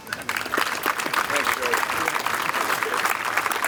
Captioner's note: applause